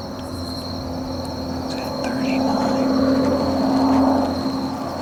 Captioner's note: whispering